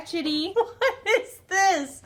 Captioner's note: laughs